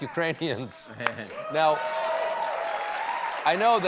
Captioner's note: applause